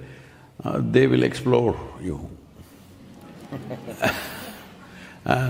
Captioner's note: few laugh